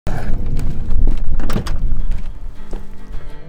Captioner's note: sound of door opening